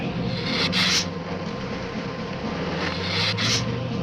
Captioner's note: lizard hissing